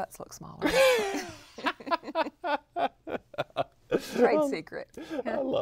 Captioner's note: laughter